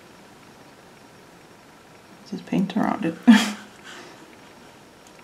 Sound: chuckles

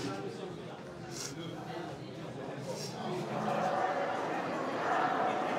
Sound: sniffles

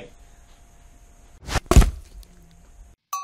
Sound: thud

